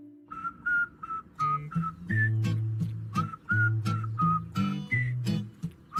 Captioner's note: soft music; boy whistles